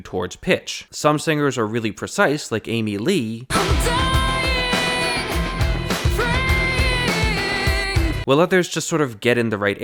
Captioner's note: bang